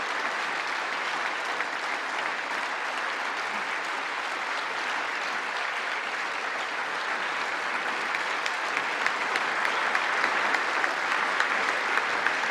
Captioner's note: applause